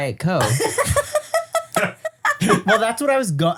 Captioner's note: laugh